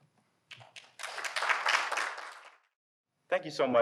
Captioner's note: audience applauding